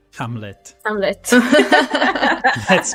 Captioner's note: laughter